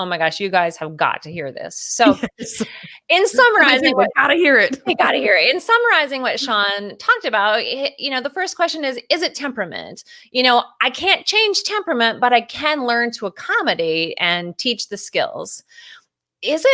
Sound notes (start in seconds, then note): 2.0 laughs